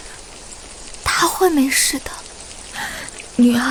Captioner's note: sound of sobs